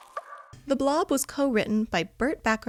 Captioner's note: pop